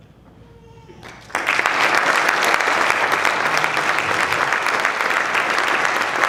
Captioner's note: applause